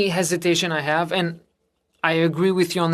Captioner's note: speaking French